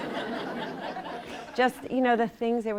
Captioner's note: laughter